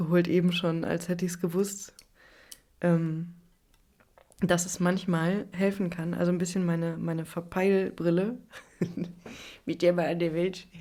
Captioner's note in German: gelächter